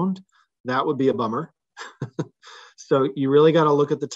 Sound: laughs

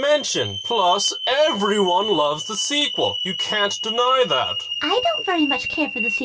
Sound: whistle

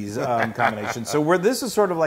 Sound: laugh

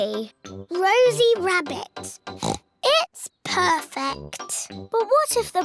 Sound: oinks

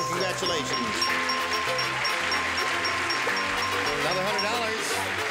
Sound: dinging; applause

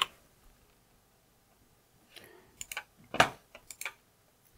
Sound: blank Audio

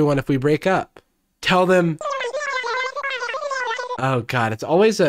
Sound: Animal Crossing gibberish

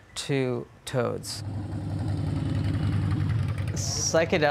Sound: motorcycle sound

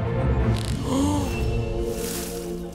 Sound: gasps

